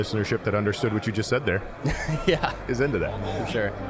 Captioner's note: chuckling